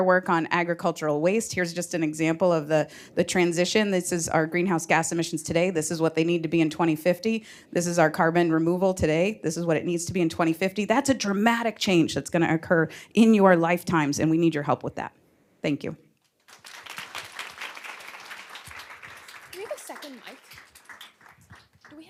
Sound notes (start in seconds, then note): 16.2 applause